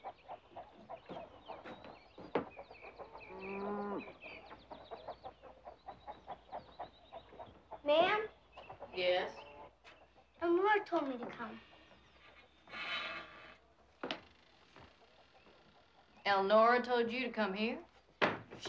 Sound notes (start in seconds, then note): 3.3 cow mooing